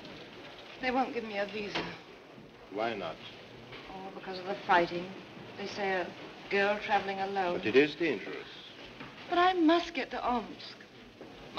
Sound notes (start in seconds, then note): none